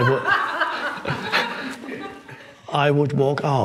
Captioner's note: person laughs